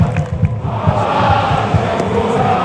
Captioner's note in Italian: Applauso